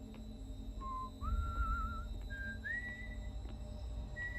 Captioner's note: whistling